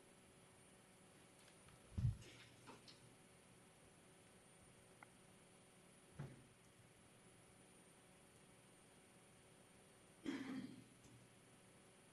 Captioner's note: clears throat